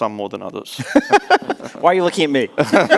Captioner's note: laughing; laughs